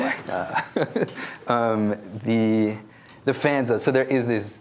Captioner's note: laughing